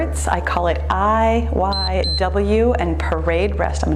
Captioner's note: timer beeps